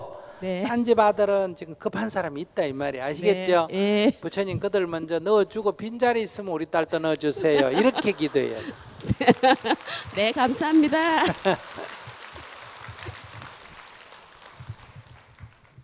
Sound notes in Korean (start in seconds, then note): 7.2 질문자, 청중 웃음; 11.6 청중 박수